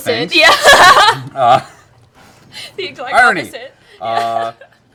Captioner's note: laughs